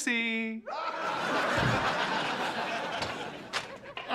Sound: laughter

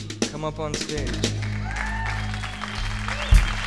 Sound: audience applauding; upbeat drumming

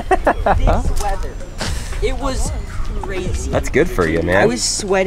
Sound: laughter

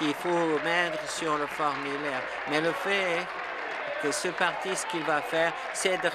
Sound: applause

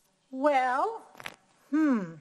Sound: thoughtful humming

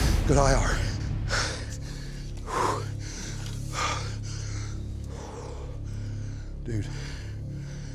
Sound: heavy breathing

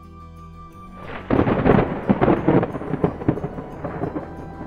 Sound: thunder cracks

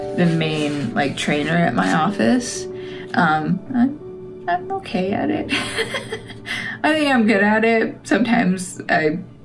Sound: laugh

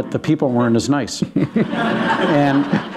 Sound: laughter

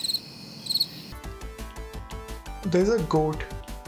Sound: crickets screeching

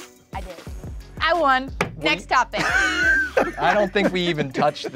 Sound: host laughing

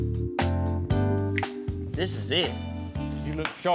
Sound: snaps fingers

